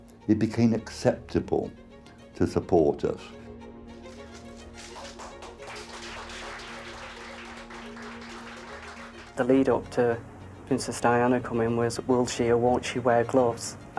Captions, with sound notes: it became acceptable to support us. (bright music) (crowd applauds) - The lead up to Princess Diana coming in was will she or won't she wear gloves?